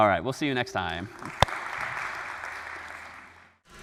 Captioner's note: applause